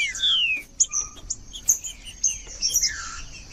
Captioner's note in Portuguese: trinca ferro cantando